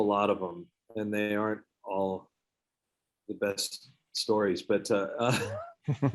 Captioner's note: laughs